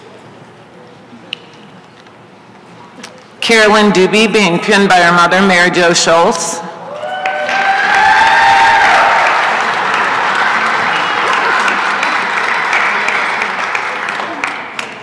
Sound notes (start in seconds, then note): 10.0 applause and cheering